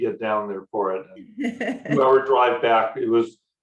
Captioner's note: laughs